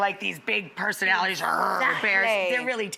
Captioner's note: growls